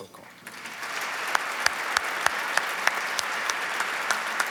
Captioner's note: applause